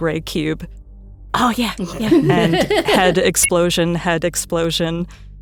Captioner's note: laughs; omnitool beeps